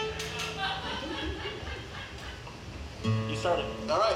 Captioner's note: audience member laughs